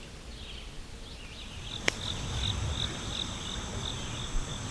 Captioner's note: birds singing; insects chirping